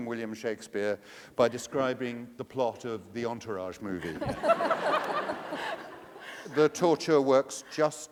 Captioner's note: laughter